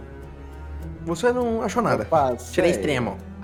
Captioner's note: mocking